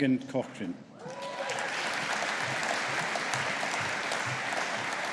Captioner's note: audience applauding